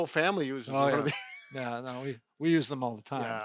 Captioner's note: laughing